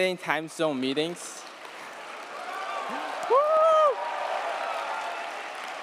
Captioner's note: audience applauding